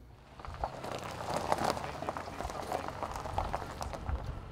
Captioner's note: car tires on gravel